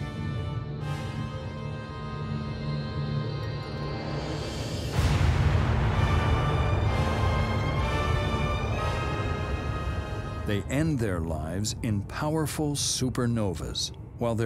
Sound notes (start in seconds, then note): 0.1 suspenseful music; 4.5 explosion blasting